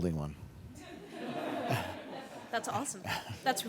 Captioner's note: laughter